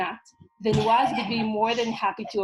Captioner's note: child giggling